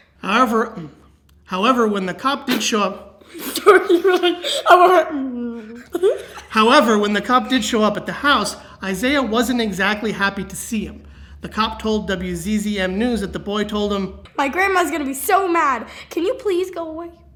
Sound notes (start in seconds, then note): 3.3 laughing